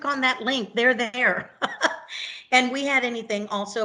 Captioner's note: laughs